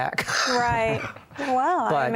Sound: chuckle

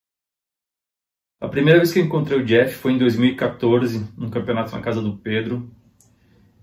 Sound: speaking foreign language

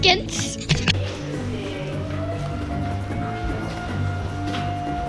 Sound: vacuum cleaner running

